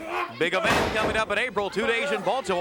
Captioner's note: body thudding